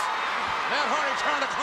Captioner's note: audience cheering